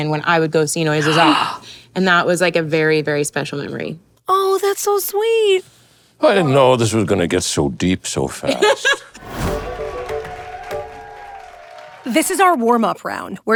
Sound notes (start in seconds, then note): 1.0 inhales; 8.5 Kathryn laughs; 9.4 light contemporary music; 9.5 people cheering